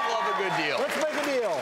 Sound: cheering and clapping

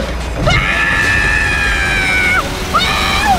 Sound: screaming

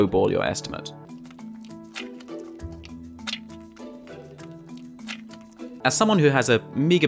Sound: wet sounds. I don't know how I can better describe it

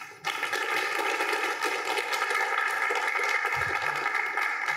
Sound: applause

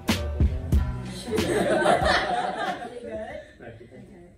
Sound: laughter

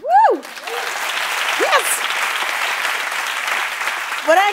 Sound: cheering and applause

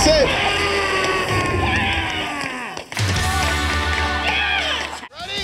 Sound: on-lookers cheering

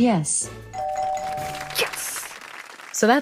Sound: sot: ding ding ding

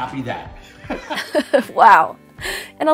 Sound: both laugh

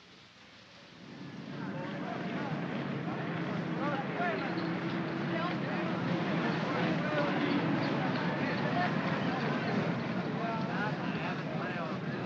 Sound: vehicle rumbles

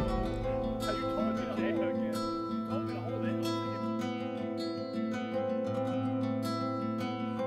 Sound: all chattering; soft music

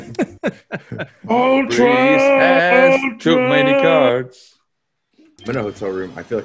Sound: laugh

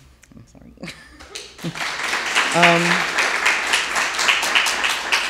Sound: audience applauding

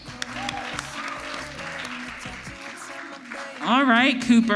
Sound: audience applauds

